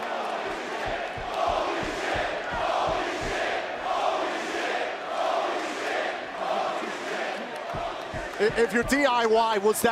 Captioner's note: crowd cheering